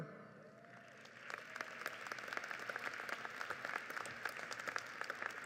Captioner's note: audience applauds